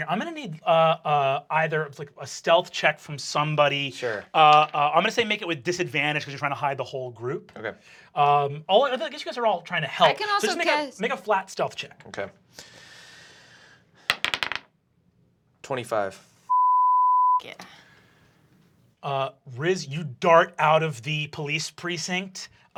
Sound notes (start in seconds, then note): 14.0 dice bouncing; 16.5 beeping